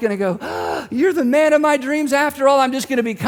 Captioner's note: gasps